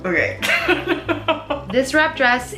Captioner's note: laughs